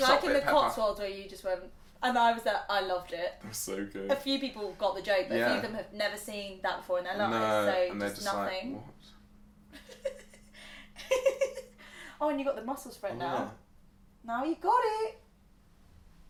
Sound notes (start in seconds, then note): 9.8 laughing